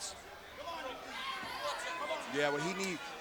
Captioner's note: wrestlers yelling